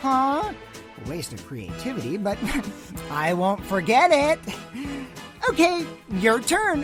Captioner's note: chuckle